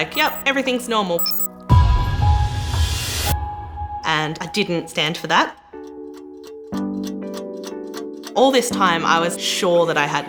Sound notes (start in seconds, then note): 4.9 ticking